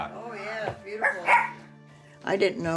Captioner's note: dog barking